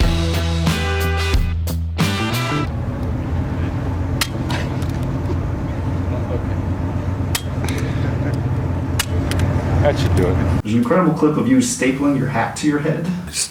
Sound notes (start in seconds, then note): 0.0 upbeat music; 2.8 stapler clicking; 2.8 wind holing